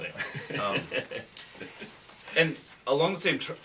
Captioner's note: laughs